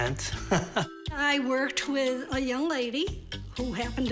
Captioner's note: laughter